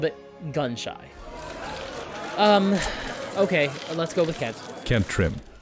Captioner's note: crowd of reporters shouting